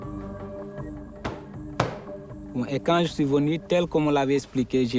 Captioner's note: hand slapping